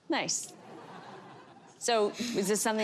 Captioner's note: audience laughter